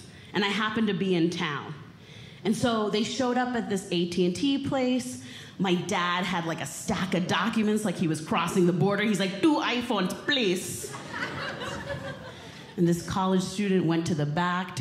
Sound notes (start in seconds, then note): 10.8 audience Laughing